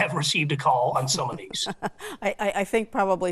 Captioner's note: laughs